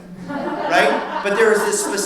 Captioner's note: audience laughs